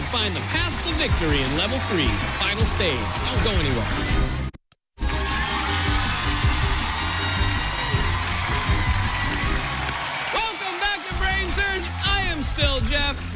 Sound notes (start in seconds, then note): 5.0 cheers and applause